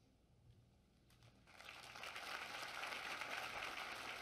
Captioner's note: applause